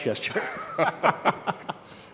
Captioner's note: laugh